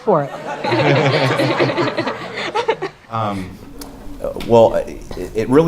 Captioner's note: laugh